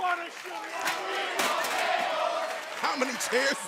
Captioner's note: crowd cheering